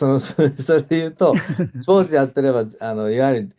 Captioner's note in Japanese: 笑い